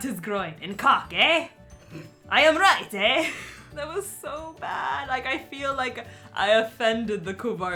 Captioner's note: laughing